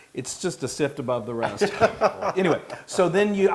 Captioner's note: laugh